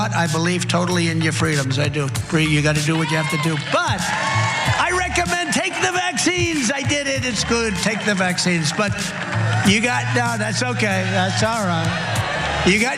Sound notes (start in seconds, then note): 4.5 applause